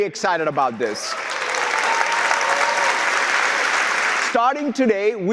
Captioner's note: audience applauding